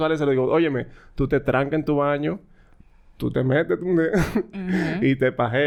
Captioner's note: laughs